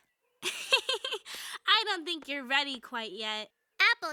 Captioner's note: laughs